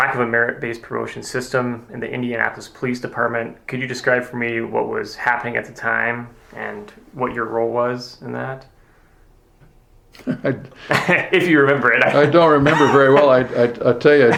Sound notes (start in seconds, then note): 10.1 both start laughing; 11.9 both chuckling